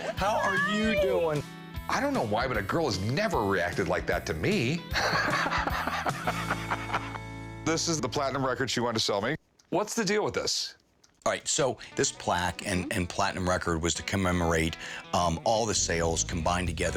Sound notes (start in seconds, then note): 4.9 laughs